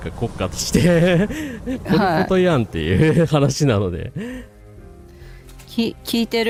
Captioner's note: laughter